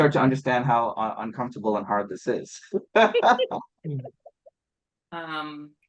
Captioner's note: laughs